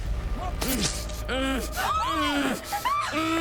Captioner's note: Roy groaning; all screaming